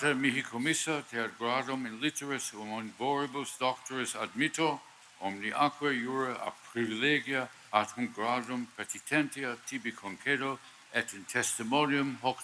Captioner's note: speaking Latin